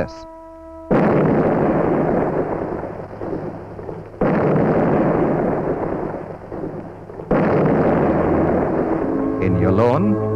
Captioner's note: sound of canon fire